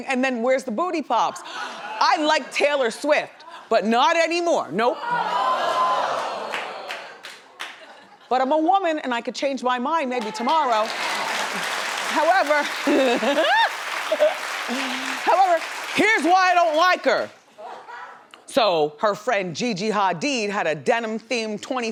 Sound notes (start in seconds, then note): 5.1 audience booing; 11.4 audience clapping; 13.4 laughs